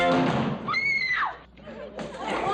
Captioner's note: Phoenix screams